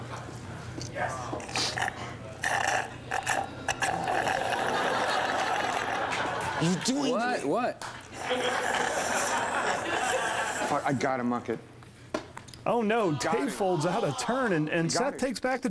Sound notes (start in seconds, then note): 0.3 Seth slurping straw; 8.2 Seth slurping straw